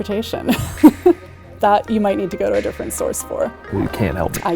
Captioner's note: chuckles